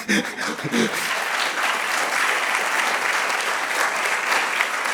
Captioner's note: laughs; audience clapping